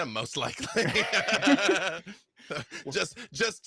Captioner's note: laughs